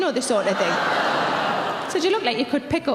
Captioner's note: laughing